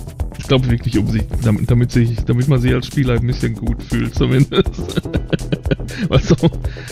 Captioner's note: laughs